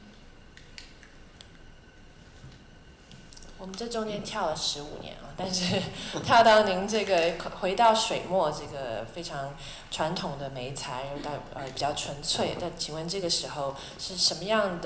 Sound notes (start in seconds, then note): 3.8 Mandarin; 5.5 laughter